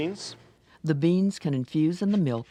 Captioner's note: voiceover